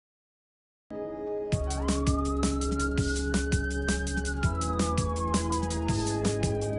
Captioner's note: ambulance sound